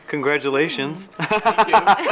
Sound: laughs

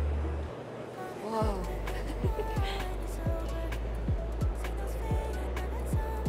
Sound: giggles

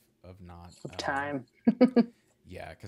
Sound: laughs

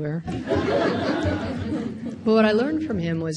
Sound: audience laughing

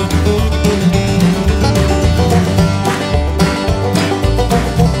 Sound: audience clapping in rhythm

